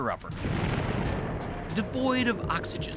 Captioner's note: loud eruption